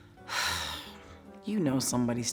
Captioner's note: sighs